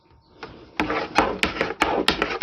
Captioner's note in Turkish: oklava sesi